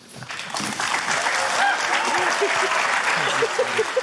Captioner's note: cheering, applause